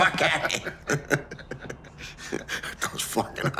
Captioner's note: both laughing